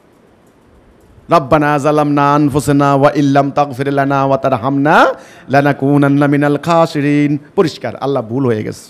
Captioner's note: Arabic